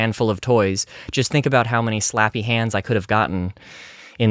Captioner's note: inhale